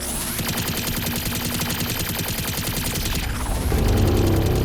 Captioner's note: gun firing